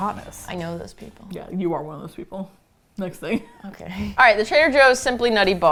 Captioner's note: chuckles